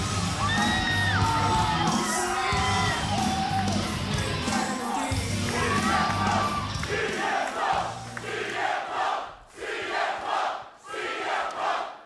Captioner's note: crowd cheering